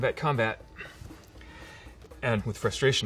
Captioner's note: sighs deeply